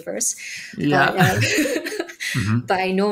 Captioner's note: both chuckling